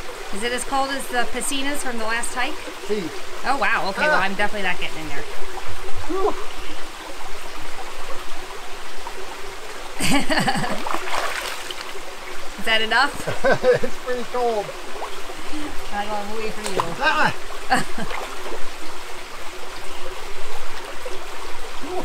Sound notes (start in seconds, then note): 9.8 laughs; 17.7 laughs